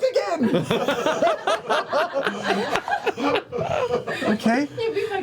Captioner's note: laughter